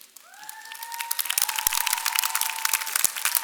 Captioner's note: applause